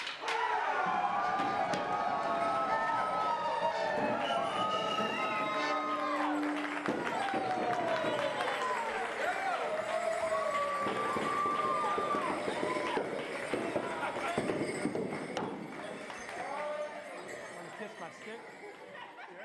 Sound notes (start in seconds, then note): 1.4 cheering; 1.4 yelling; 7.2 bells jingling